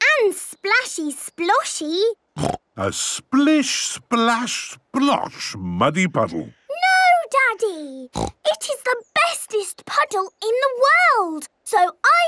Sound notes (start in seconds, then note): 2.4 snorting; 8.1 snorting